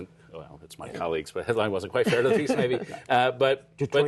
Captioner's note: laughter